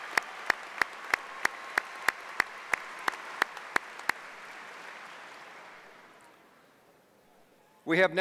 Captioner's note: applause